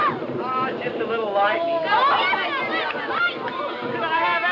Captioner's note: children scream; children yelling